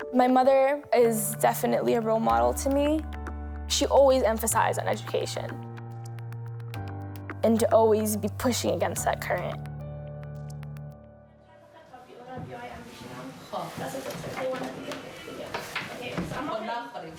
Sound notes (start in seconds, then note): 11.9 speaks in foreign language